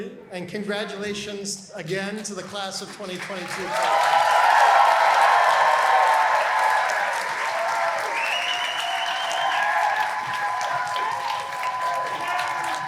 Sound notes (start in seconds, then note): 3.8 applause